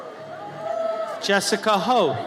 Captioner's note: audience cheers